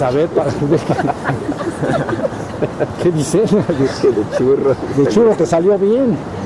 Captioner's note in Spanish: risas